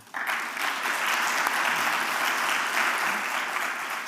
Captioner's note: applause